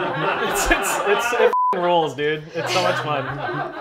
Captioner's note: laughter; beep